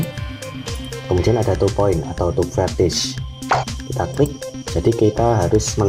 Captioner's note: click